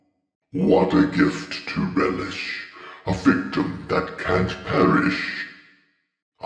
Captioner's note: deep, Rumbly Voice